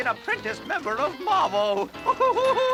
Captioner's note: exclaims